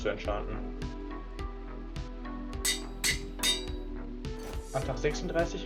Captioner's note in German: Amboss Sound